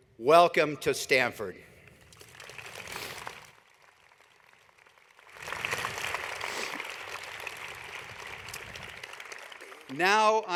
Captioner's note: applause